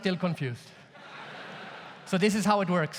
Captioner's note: audience laughs